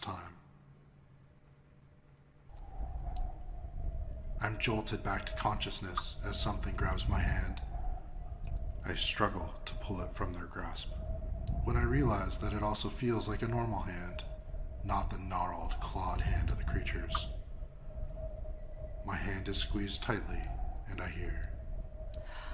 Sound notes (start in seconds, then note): 3.0 fading voice